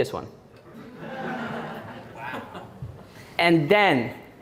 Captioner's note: audience Laughing